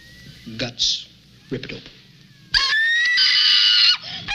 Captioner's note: woman screaming